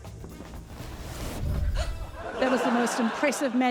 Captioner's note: magical whoosh; gasps